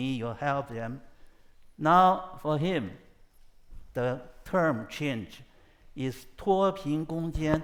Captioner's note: speaks foreign language